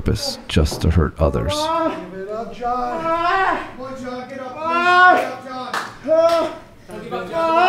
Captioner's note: audience cheering